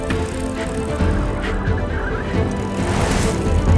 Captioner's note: dramatic music; tires rattle; cyclists gasping; cyclists whoosh